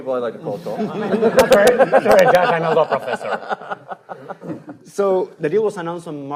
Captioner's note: panelists laughing